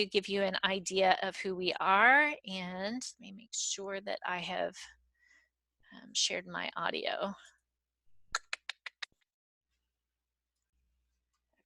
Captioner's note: click of tongue